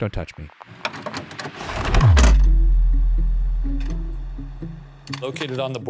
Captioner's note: projector clicking